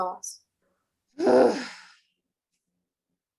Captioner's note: groan